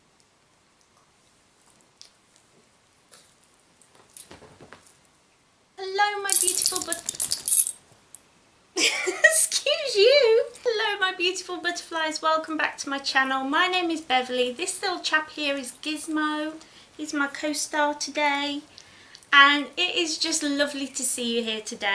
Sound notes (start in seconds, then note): 6.4 dog shakes; 8.8 giggles